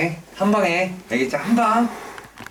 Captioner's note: exhalation